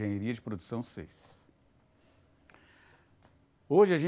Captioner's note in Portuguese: silêncio